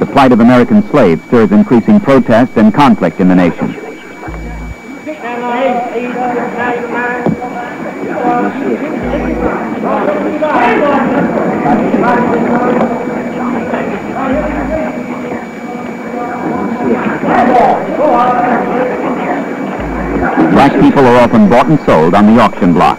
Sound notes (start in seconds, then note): 5.6 whispering; 7.6 auctioneer chanting